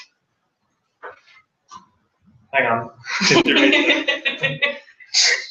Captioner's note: laugh